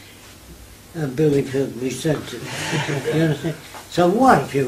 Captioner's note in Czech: smích